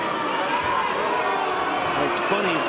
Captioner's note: audience booing